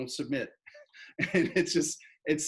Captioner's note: laughs